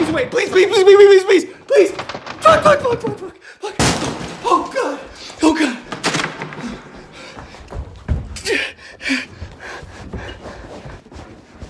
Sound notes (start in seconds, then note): 3.8 pounding on door; 6.4 Chad panting and grunting